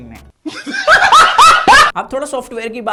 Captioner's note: laughs